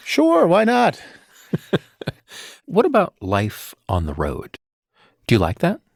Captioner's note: chuckling